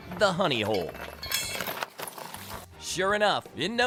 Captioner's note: chain clanking